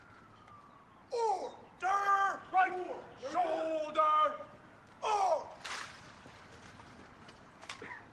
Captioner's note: military drill commands